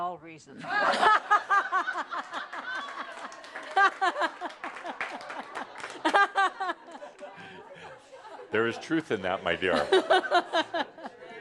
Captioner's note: lots of laughter and some applause